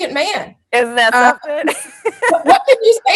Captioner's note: laughs